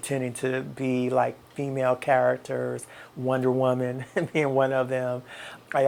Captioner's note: chuckles